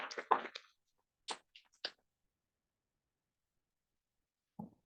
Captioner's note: audience clapping